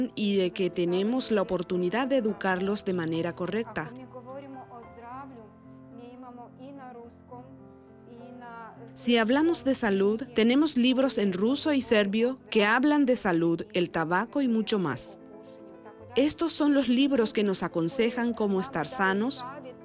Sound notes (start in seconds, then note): 4.1 Hablando idioma extranjero